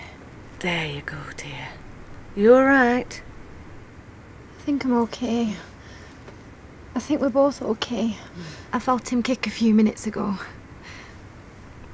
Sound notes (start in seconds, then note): none